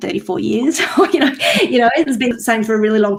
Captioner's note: chuckles